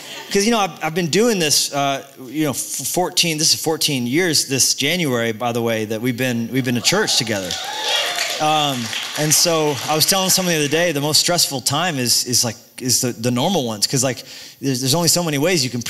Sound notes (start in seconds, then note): 6.7 cheering; 7.0 applause